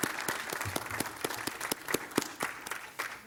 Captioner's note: applause